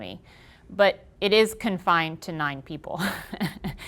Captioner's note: laughing